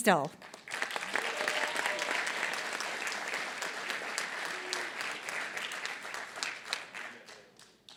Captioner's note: applause